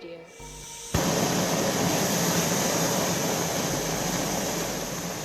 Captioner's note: blowtorch whooshing